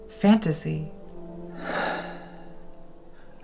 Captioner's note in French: soupire